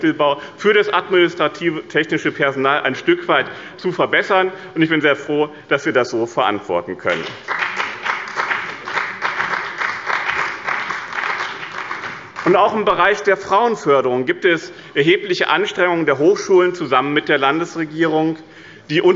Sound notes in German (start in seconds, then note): 7.1 Beifall bei Abgeordneten des BÜNDNISSES 90/DIE GRÜNEN und der CDU